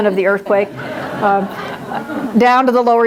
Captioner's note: audience laughs